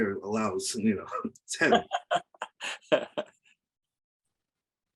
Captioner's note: laughs